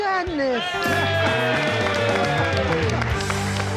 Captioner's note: cheering, clapping